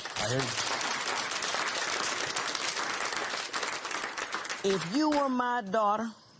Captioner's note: applause